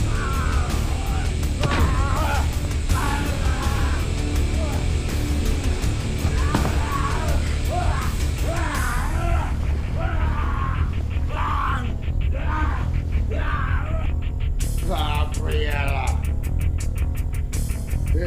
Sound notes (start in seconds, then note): 0.2 both groaning; 7.9 Gundra screaming